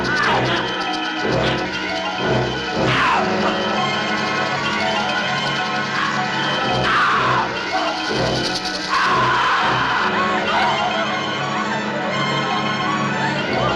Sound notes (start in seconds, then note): 8.7 screaming